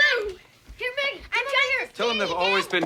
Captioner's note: children shouting over each other